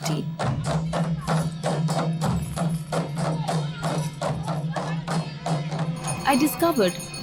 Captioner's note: soft drumming; metal clanking